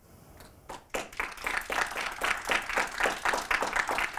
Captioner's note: applause